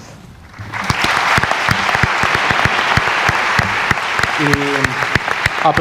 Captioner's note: applause